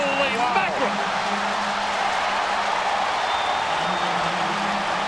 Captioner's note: crowd cheering